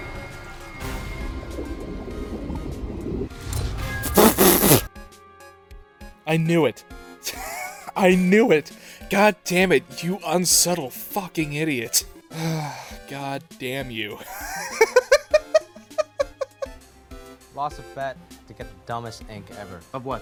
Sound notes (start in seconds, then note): 7.2 wheeze; 12.3 sigh; 14.2 laughter